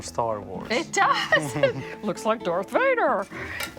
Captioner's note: laughs